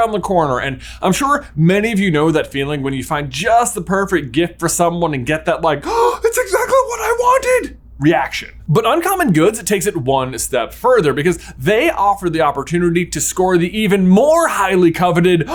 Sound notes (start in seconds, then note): 5.8 gaaaaaaasp